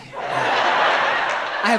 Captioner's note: crowd laughs